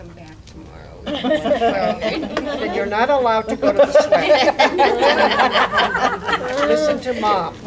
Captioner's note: laughter